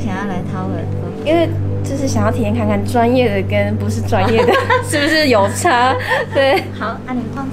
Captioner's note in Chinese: 哈哈哈